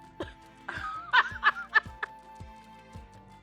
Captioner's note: laughs